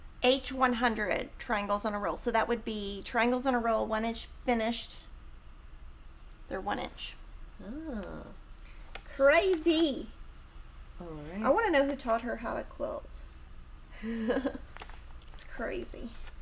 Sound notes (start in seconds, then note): 14.0 chuckles